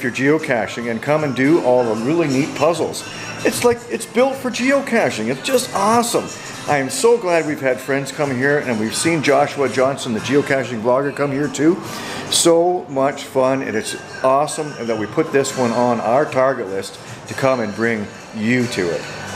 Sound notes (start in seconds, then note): none